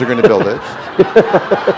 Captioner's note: laughter